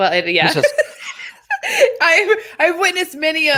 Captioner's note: laughing